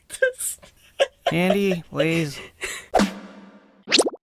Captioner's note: bursts out laughing